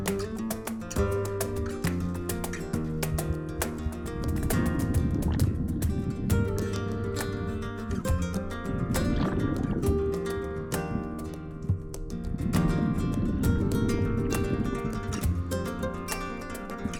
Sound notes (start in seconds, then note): 0.7 air and water bubbling